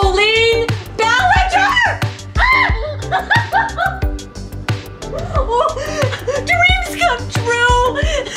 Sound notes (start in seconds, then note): 2.4 screams